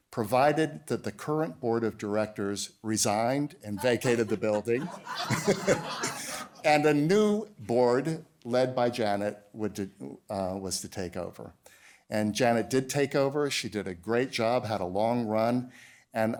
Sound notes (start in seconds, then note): 3.8 laughter; 3.8 laughs